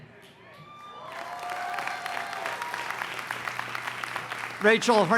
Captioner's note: cheering and applause